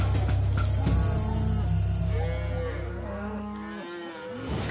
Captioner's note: cows mooing